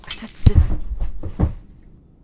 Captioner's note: china shatters; sounds of struggle; thud